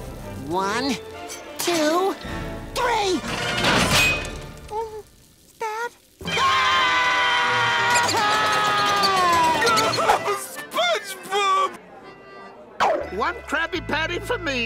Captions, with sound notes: One, two... Three! Spat? [screaming] [Patrick sobbing] SpongeBob! One Krabby Patty for me